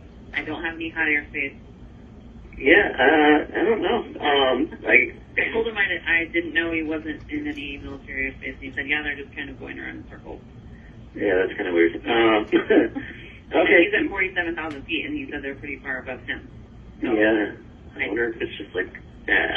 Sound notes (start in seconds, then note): 12.2 laughing